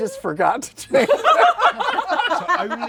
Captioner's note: laughter